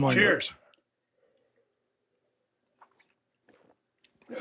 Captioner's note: Steve gulping and exhaling